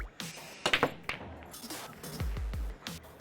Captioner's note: sound of balls rolling